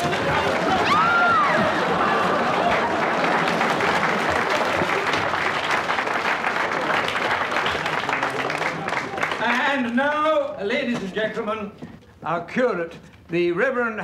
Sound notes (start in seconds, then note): 0.8 woman screams